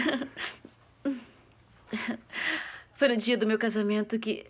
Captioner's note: laughs